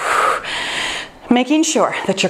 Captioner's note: sighs